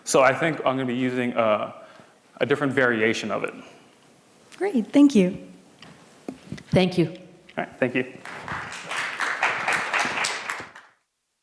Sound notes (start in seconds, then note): 8.2 applause